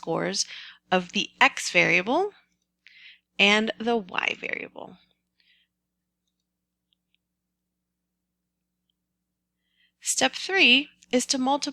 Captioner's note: pause